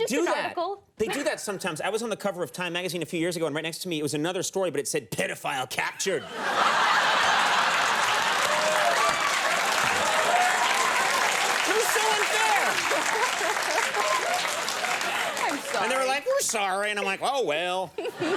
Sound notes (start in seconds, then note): 6.3 audience applauds; 12.8 laughs; 18.2 chuckles